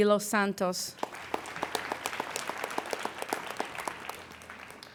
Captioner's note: applauding